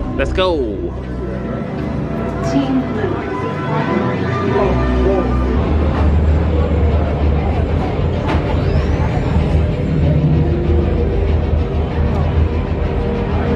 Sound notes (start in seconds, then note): 3.9 lively background chatter